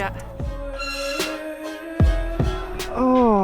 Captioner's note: squeaky gate